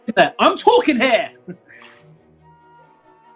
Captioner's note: chuckles